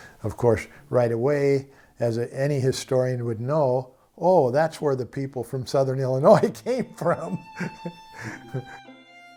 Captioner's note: laughes